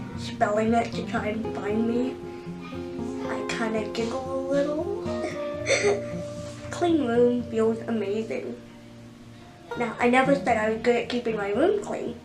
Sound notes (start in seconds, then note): 5.7 giggles